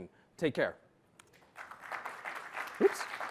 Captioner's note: applause